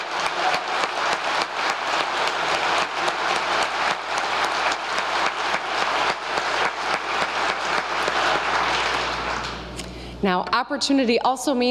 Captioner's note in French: applause